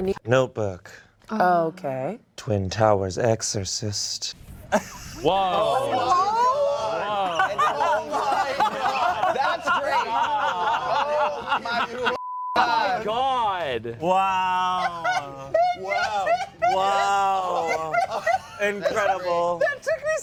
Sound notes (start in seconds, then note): 4.7 clamoring and laughter